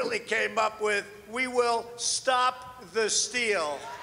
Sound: cheers and applause

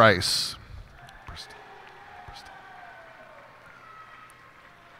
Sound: cheers and applause

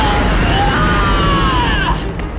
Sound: grunting; screaming

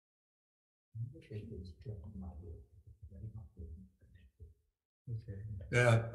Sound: murmuring in background

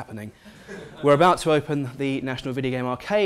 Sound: laugh

